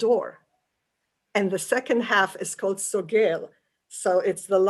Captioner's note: yiddish; yiddish